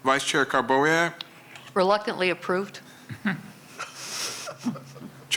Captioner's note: laughter